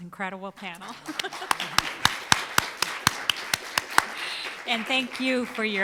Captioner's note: audience applauding